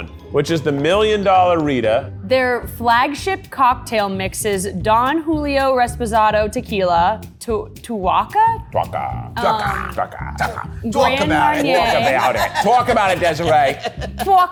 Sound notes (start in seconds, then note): 12.3 laughs